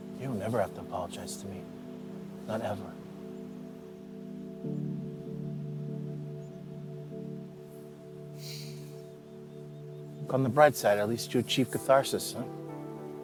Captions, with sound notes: You'll never have to apologize to me. Not ever. (Benny sighs) Look on the bright side. At least you achieved catharsis, huh?